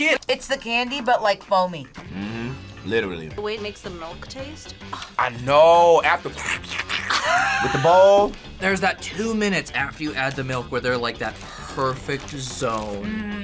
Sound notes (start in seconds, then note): 7.0 laughs